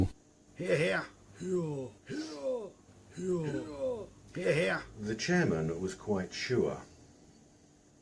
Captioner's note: cries of "Hear Hear"